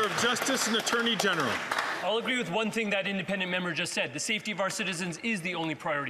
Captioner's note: some Applause